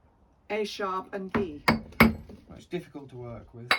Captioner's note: sound of chisel on rock